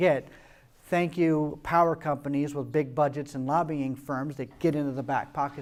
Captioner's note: sarcastically